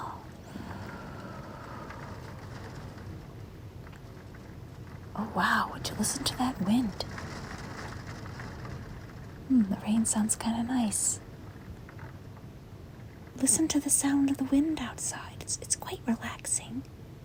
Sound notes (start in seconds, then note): 0.2 exhales; 2.2 loud Wind and Rain; 7.1 loud Wind and Rain